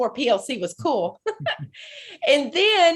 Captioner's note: laughing